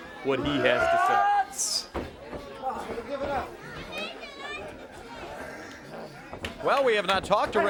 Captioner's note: crowd chatter